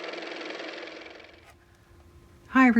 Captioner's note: car motor